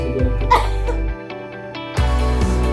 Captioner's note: cough; cheerful atmospheric music